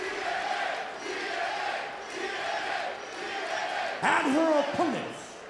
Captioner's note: crowd chants "tna"